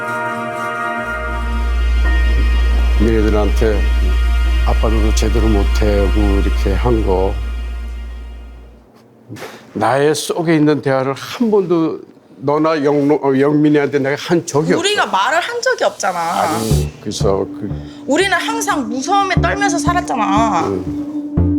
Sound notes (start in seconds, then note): 3.6 speaking Korean; 9.5 speaking Korean; 14.9 speaking Korean; 21.3 intense music